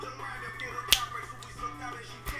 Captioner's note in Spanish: chasquido